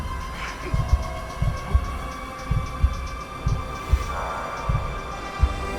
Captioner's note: heartbeat slows